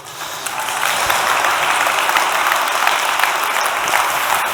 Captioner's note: applause